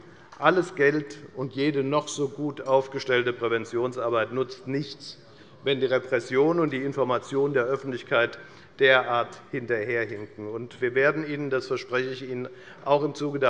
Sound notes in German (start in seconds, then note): none